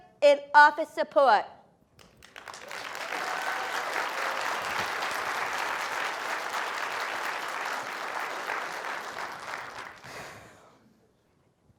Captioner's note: applause